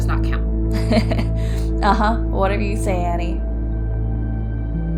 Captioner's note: chuckles